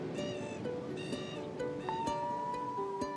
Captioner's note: serene music; gull squawks